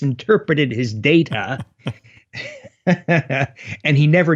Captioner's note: both chuckle